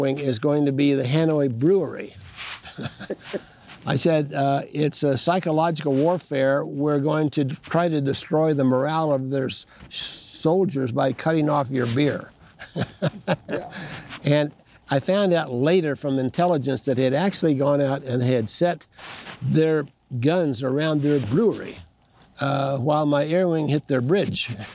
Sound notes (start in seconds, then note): 2.6 chuckling; 12.5 laughs